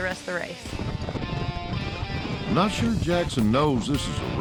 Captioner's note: hoofbeats